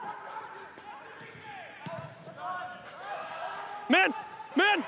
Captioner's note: team chatters